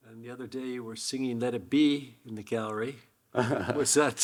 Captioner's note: Hiroshi chuckling